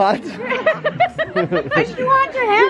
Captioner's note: laughing